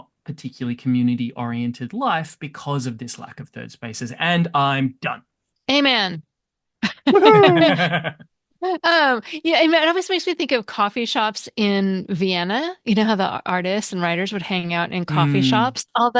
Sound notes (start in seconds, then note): 9.0 laughter